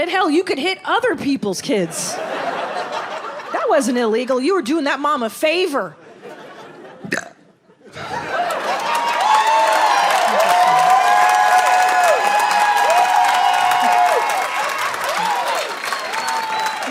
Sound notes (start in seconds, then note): 1.9 audience laughs; 7.0 belches; 8.0 audience cheers